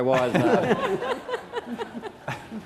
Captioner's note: laughter